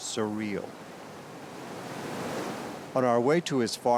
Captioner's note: water lapping